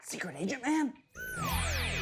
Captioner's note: whispers